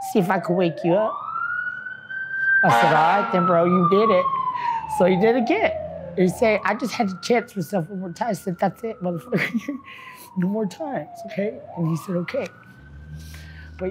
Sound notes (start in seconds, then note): 9.3 laughs